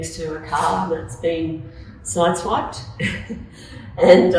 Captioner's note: laughs